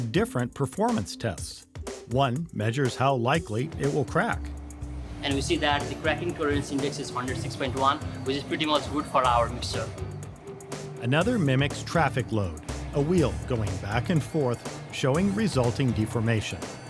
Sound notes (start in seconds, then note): 4.6 machine rumbling; 10.0 upbeat music; 16.7 upbeat music